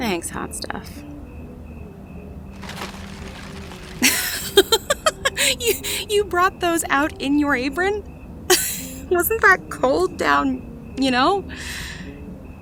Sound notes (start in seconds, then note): 2.5 ice pack sounds; 4.0 laughs hard